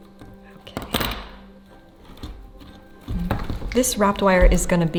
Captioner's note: tool clacks